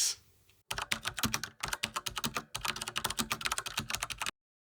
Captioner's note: keyboard typing